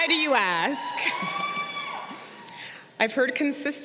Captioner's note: crowd cheering